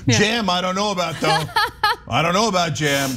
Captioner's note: laugh